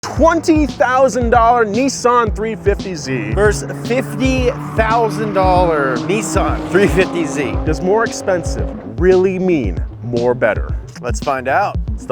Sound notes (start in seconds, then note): 2.3 upbeat music; 7.6 car engine roaring